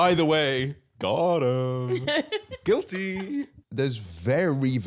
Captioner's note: laughing